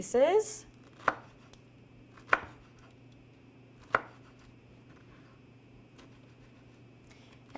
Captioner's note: knife cutting pineapple on cutting board